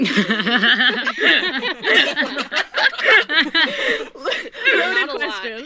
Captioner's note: laughter